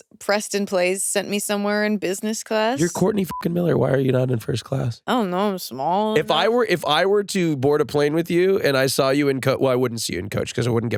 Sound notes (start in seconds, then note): 2.8 beep